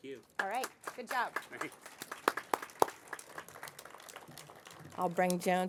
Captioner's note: applause